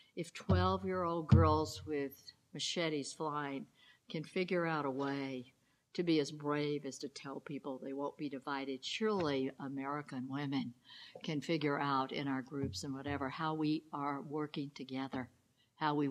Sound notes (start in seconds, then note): none